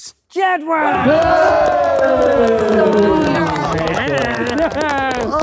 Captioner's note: group cheering